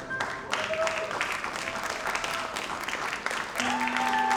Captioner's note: audience applauds